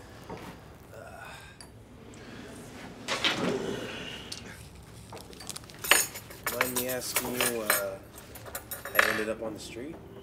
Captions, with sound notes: (sighs) (utensils clang) - Mind me asking you how you ended up on the street?